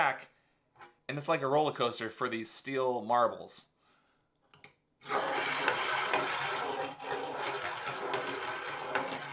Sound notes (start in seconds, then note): 5.1 ball rattles